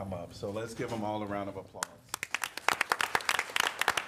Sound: applause

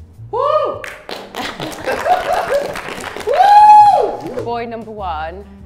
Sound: Sidemen cheering and clapping

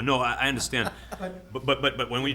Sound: laughs

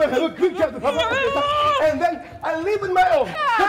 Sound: Zina's shrieking drowns out drunk man

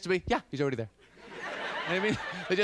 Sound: laughter

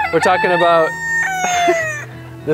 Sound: rooster crowing

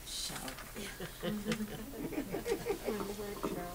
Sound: audience chuckles

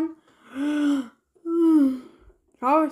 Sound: yawns and goes back to sleep

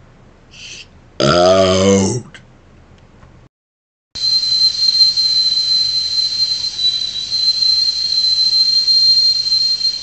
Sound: high Pitched Whistle

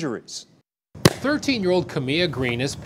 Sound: ball thuds

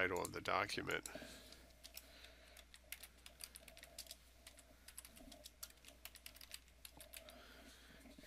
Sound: sound of typing

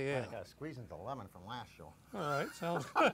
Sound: laughs

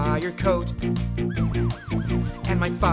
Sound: siren wailing

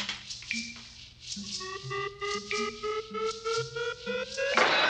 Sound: beeping Continues

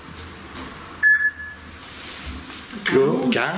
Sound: alert beeping

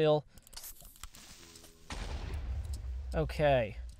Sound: explosion

